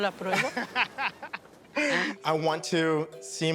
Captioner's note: laughing